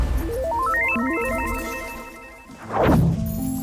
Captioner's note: warp noise; beeping